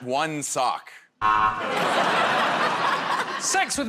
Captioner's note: buzzer